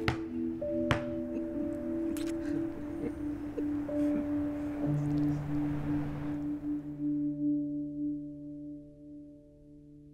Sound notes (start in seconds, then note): 1.1 giggling; 5.3 happy sigh